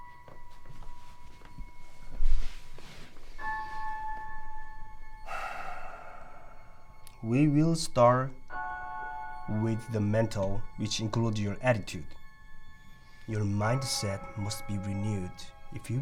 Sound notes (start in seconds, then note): 1.4 breaths heavily